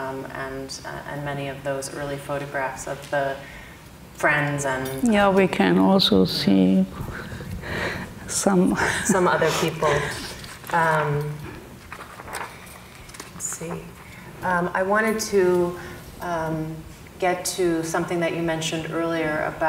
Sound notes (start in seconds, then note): 8.6 laughs